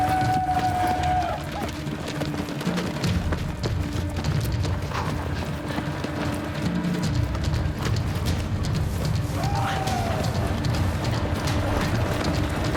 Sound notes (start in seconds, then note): 1.8 war cry